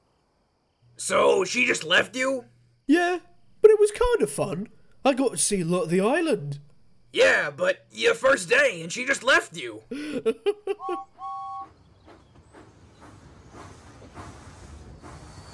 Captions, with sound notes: "So, she just left you?" "Yeah, but it was kinda fun. I got to see a lot of the island." "Yeah, but your first day and she just left you?" [WHIFF GIGGLES AND JAMES WHISTLES]